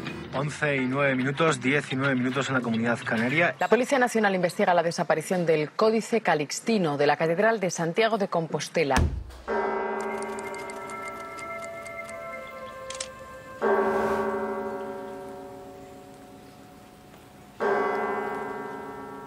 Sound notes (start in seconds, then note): 9.4 church bell; 17.6 church bell